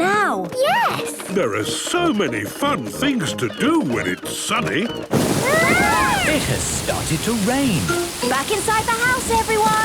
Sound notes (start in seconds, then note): 4.9 shouting